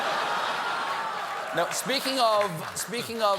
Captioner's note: laughter; applause